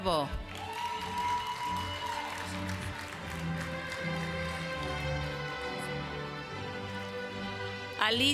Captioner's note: applause